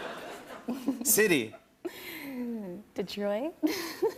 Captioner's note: laughs